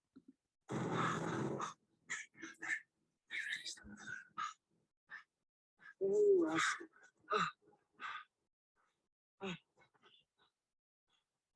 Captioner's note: heavy breathing